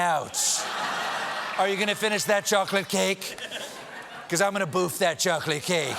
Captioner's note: laughter